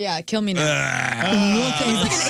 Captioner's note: laughter